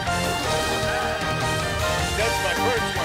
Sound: men cheer

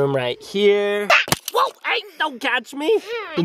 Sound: net thumps; shouts

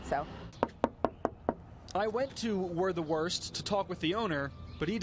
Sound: knocks

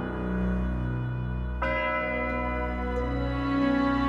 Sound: bell tolling

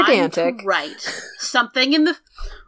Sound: laughs

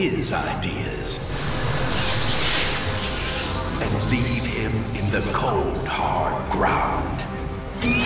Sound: sparks

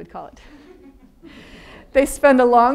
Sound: audience laughing

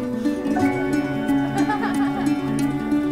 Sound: laughing; murmuring

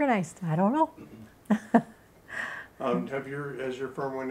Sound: laughing

